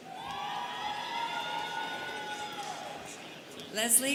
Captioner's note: students cheering